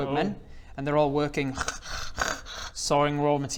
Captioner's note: tssh-krrh tssh-krrh